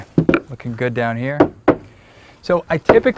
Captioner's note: tap-tap